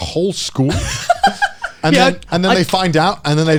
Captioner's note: laughing